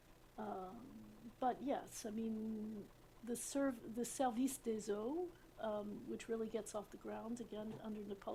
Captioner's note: french